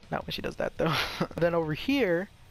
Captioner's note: nervous chuckling